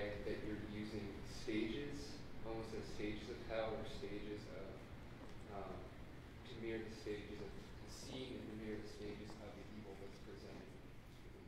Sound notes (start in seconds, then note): none